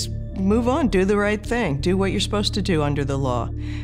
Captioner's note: none